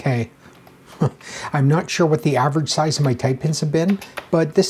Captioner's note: chuckles